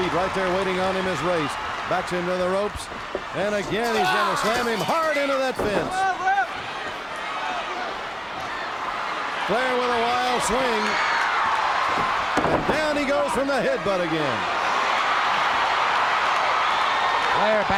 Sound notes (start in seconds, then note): 11.3 crowd cheers; 14.9 crowd cheers